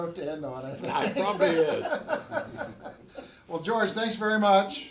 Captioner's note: laughs; everyone laughs